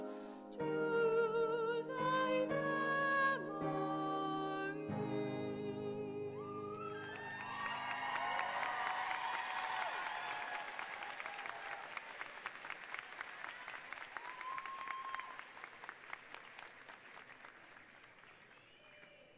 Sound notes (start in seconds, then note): 6.4 loud cheering and applause